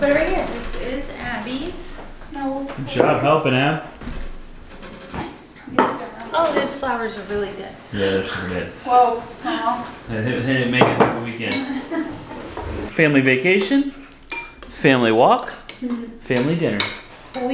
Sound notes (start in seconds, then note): 3.0 family chatter